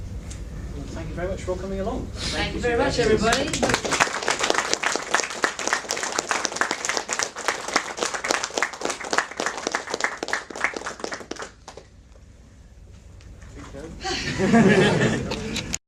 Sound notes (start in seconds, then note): 4.9 light applause